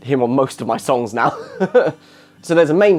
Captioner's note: laughs